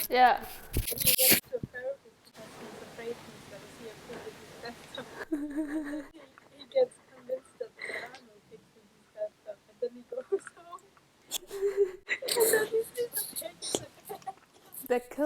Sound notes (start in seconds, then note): 11.2 pff